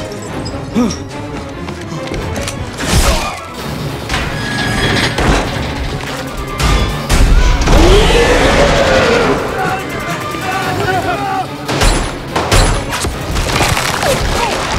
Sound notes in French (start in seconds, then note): 0.2 Musique dramatique; 7.7 rugit; 9.4 Foule criant